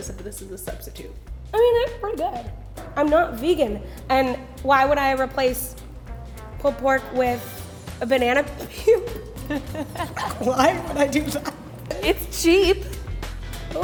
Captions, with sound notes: if this is the substitute. - I mean it is pretty good. I'm not vegan and why would I replace pulled pork with a banana peel? (laughing) Why would I do that? - It's cheap!